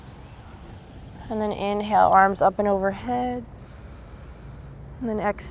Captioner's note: takes deep breath